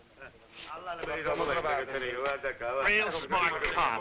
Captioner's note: officers conversing in foreign language